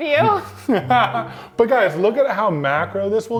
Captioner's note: laughing